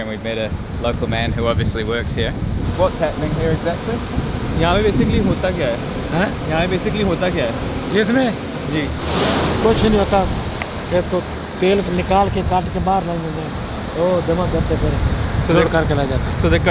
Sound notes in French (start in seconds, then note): 4.3 Langue locale